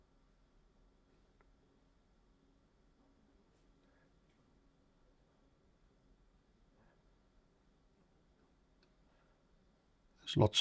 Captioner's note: silence